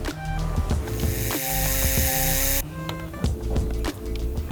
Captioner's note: tool whirs